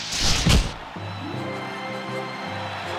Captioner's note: cheers and applause